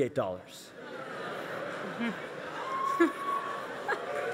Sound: audience laughs

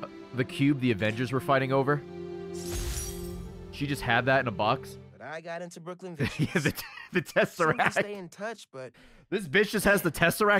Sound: laughs

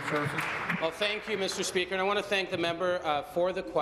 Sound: applause

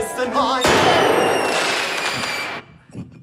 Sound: singing; loud fireworks

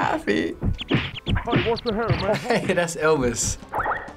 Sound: laughing

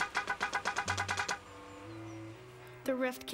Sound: honking

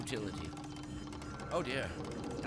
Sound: sirens in the distance

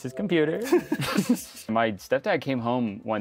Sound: both giggle

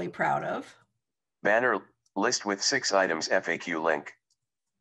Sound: recorded voice

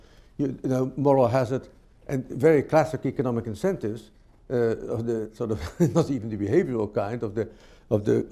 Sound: laughs

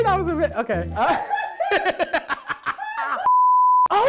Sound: laughing

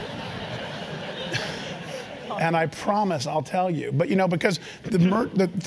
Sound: laugh

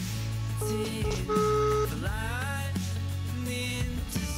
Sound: phone ringing

